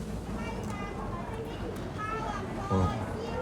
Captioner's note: person speaking in foreign language